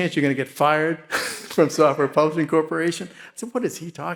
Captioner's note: laughs